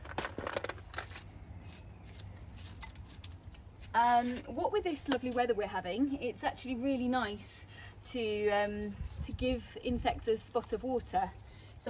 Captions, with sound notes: (scraping) What with this lovely weather we're having, it's actually really nice to, to give insects a spot of water